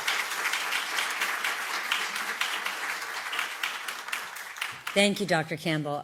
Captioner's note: applause